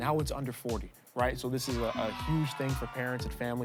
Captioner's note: crowd cheering